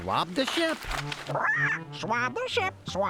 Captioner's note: squawks